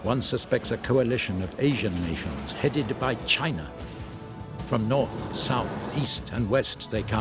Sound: suspenseful music; tanks firing

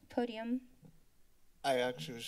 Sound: silence

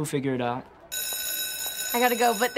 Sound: school bell ringing

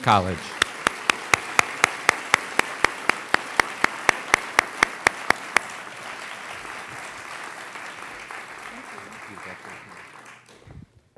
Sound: applause

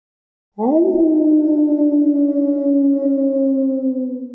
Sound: wolf howls

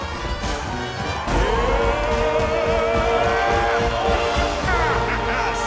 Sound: yelling

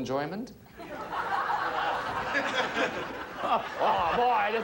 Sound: audience laughing

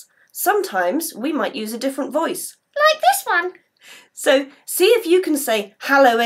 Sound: high voice

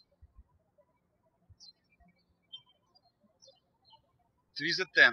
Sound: birds chirping

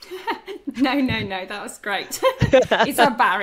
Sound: laughs

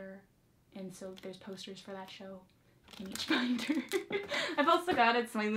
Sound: laughs

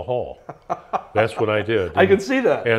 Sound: laughing

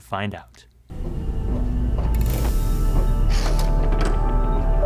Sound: electronic beeping

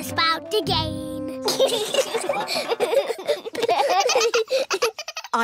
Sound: all giggling

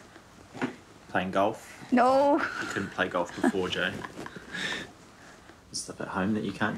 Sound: laughs

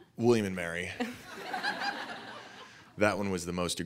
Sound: laughing

